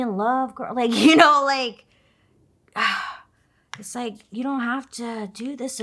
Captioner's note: sighs